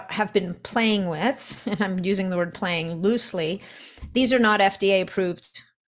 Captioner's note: chuckles